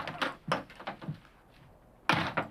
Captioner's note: door slams